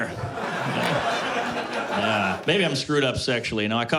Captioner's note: laughter